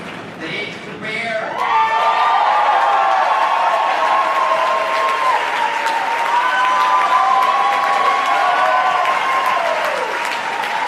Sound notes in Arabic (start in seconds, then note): 1.5 يهتف الجمهور بشدة